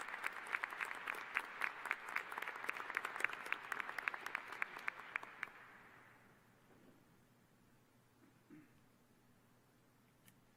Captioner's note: applause